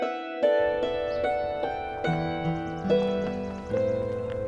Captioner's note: birds chirping